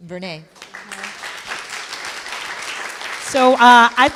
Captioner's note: applause